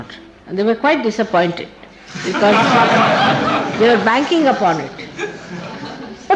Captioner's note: laughing